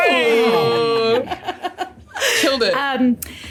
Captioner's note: giggles